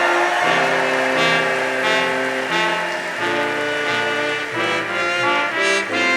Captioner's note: audience cheering